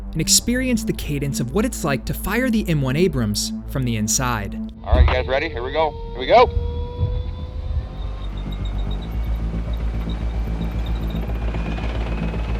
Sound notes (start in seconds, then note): 7.0 dramatic music; 7.0 tank revs